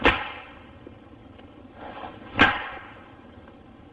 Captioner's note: banging